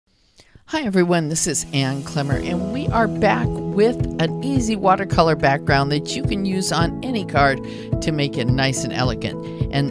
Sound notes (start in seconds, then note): 0.8 voiceover